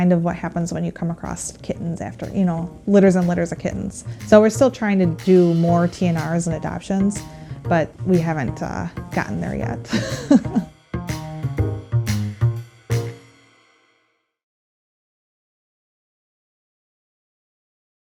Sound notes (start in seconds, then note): 13.4 laughs